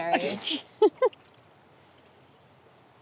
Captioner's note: Leah snorts